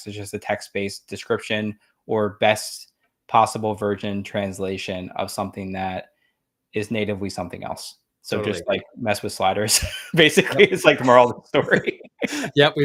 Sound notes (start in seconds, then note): 9.7 laughs